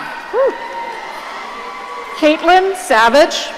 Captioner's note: audience cheering